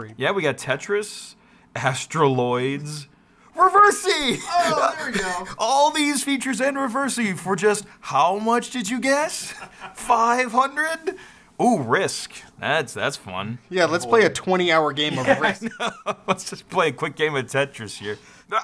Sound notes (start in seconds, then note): 15.1 laughs